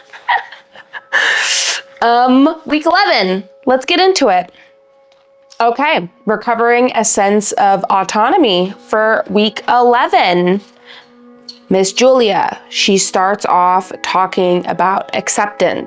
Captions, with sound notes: (laughs) Week 11, let's get into it. Okay, recovering a sense of autonomy for week 11. Ms. Julia, she starts off talking about acceptance,